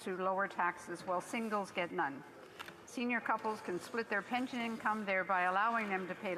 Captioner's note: off mic